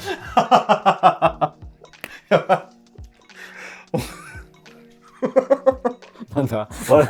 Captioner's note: laughing